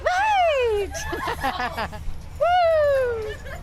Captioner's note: laughter